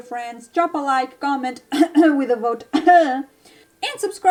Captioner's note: cof